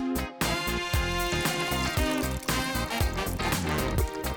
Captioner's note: liquid pouring